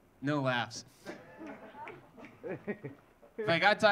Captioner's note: audience laughing